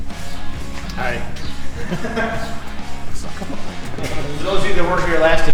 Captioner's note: laughter